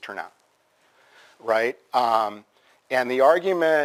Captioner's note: pause